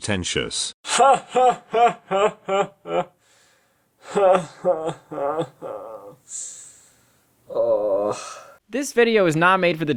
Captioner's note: uncomfortable laughter turns to a groan